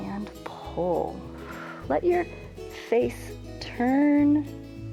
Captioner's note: exhales